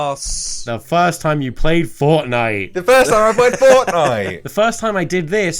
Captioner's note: laughs